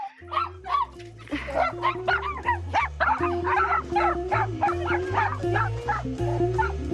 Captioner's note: upbeat jazz music; dogs barking